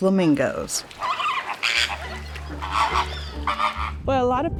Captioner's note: flamingos honking